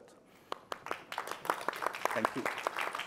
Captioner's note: crowd clapping